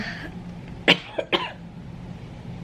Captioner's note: coughing